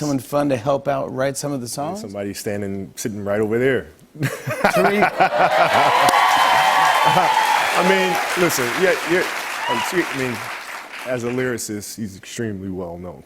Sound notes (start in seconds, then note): 4.9 cheers and applause